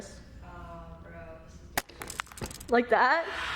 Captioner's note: panicking camera noises